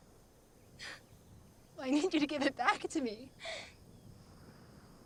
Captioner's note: sobs